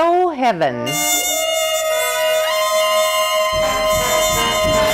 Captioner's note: horns blowing